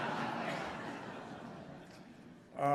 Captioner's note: laughter